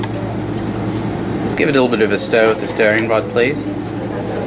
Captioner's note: clink